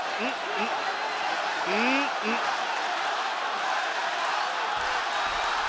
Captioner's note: applause